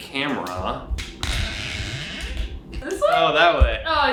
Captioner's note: camera squeaks